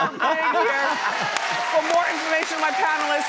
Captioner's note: audience cheers